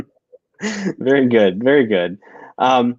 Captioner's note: laughter